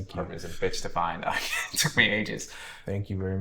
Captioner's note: chuckles